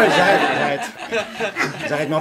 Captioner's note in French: rires